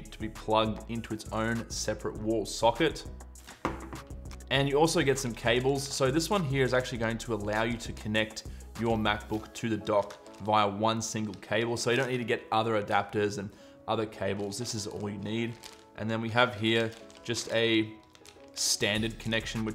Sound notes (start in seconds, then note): 3.6 dull thump